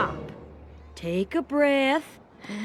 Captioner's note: inhales deeply